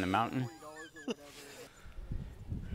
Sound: laughs

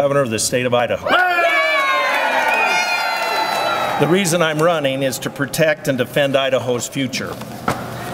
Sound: applause

